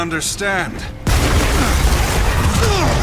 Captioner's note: fire roars; grunts